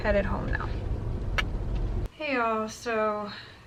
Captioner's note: kissing